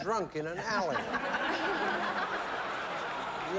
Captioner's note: laughter